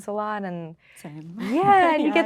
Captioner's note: laughing